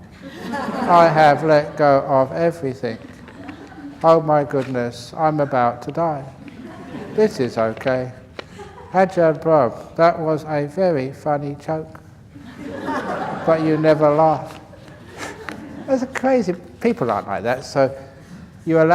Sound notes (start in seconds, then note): 6.4 laughs; 12.3 laughter